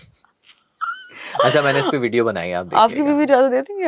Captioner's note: laughter